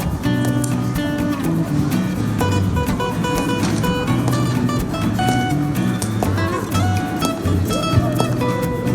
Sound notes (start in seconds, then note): 0.0 tromp of boots